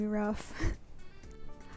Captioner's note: laughs